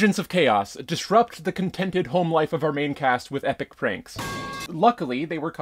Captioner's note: metal pipe crash sound